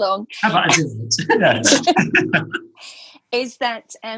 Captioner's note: laughing